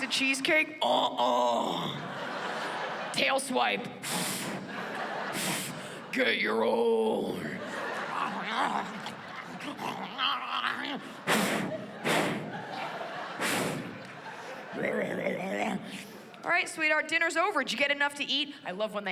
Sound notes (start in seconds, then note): 4.0 blows into microphone; 7.1 groans and snorts; 11.0 blows into microphone